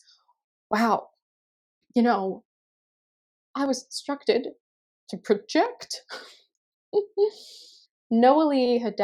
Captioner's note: sobs